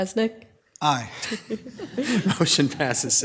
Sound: all chuckling

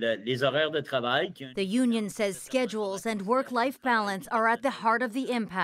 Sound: speaking French

